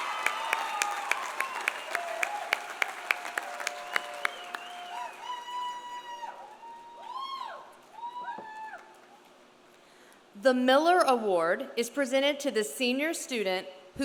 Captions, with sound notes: (audience continues cheering) (audience continues applauding) The Miller Award is presented to the senior student